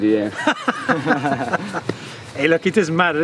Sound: laughing

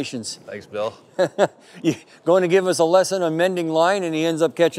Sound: laugh

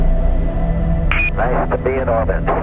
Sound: radio voice 4

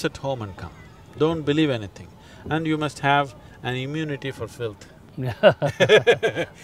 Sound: both Laugh

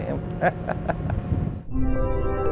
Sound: laughs

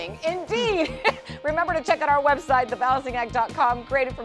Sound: laughter

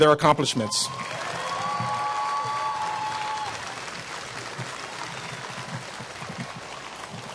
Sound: applause

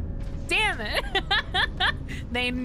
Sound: laughter

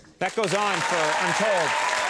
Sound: audience applauding

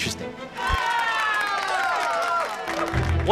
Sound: all cheer

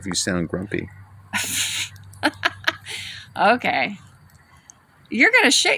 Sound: scoffs, laughs

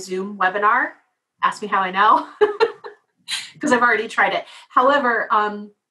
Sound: laugh

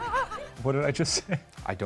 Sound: laughs

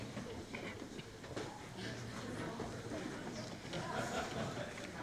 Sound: audience chatters

